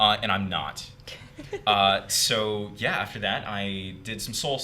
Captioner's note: laughing